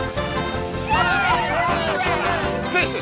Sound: crowd cheering

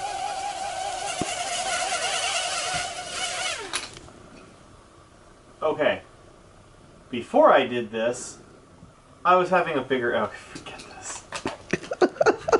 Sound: whurrring

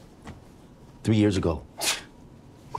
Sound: joel scoffs

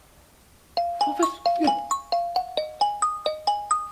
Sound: phone Rings

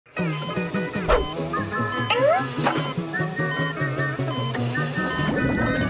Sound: beeping

